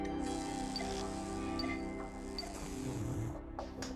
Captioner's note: coffee pot buzzing